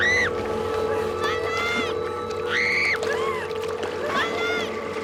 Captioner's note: screaming